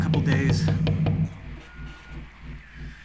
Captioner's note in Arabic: يستمر الطرق